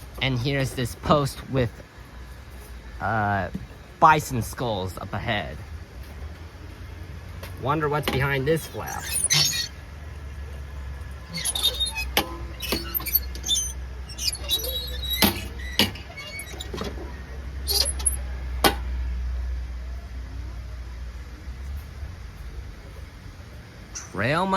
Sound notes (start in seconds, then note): 10.0 flap opening